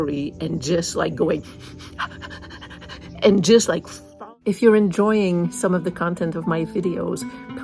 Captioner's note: sniff, sniff, sniff